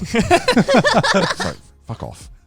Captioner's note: everyone laughing